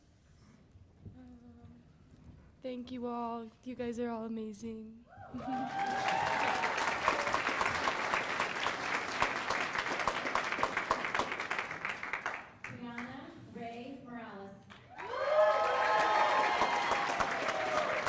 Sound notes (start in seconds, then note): 7.0 cheers and applause